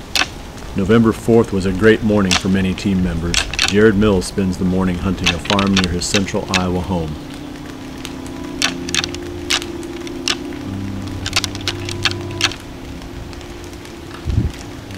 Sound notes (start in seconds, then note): 8.4 sound of rattling; 13.4 soft music